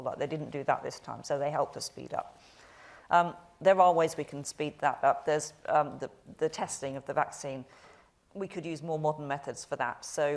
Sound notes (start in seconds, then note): none